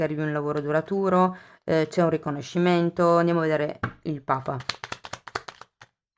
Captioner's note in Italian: Applauso